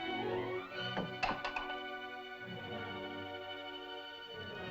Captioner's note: soft tense music; bowl clatters; tense music